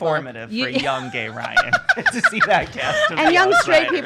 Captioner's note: laughing